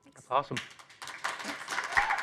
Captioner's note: applause